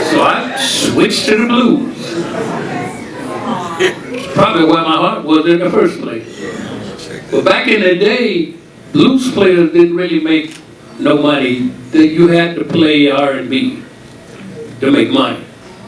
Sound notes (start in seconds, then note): 2.1 audience chattering